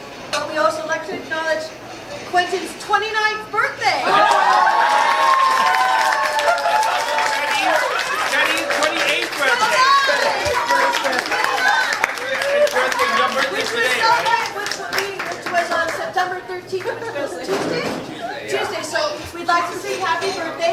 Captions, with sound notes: but we also like to acknowledge Quentin's 29th birthday! (crowd cheering and applauding) - Also, Eddy's 28th birthday! (crowd cheering) Happy birthday. It's your birthday today, right? - Which was celebrated with me, which was on September 13th, which was Tuesday? - Tuesday. - Tuesday, so, we'd like to sing happy birthday.